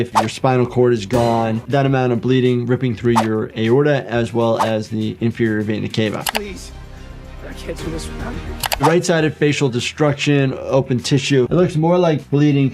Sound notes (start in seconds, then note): 1.0 dramatic music; 3.1 screen whooshing; 6.4 screen clicking